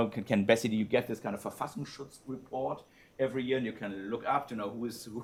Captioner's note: non-english speech